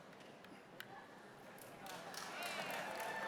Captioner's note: applause